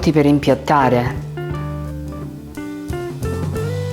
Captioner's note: speaking italian